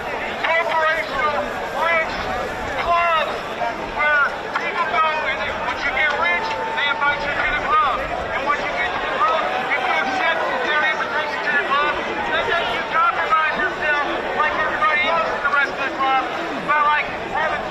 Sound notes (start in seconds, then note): 2.8 crowd noise